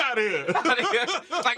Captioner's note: laughter